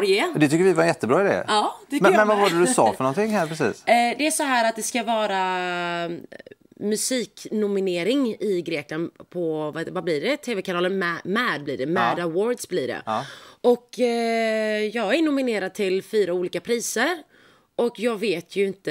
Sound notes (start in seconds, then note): 3.8 in greek